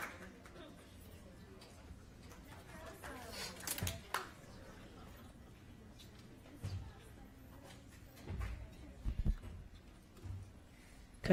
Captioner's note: applause